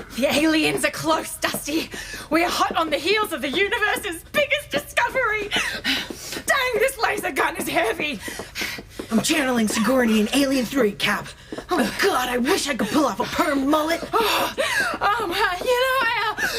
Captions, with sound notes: AURELIA The aliens are close, Dusty. We’re hot on the heels of the universe’s biggest discovery! (struggling) Dang, this laser gun is heavy! DUSTY I’m channelling Sigourney in Alien 3, Cap... oh god I wish I could pull off a permed mullet. AURELIA (out of breath) Oh I uh...